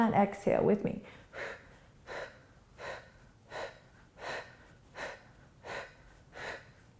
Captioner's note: quick breaths